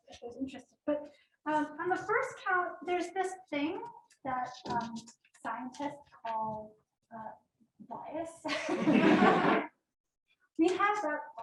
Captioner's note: laughter